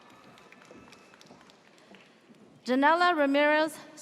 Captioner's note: audience cheers